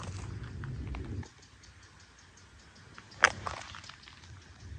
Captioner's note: wind howling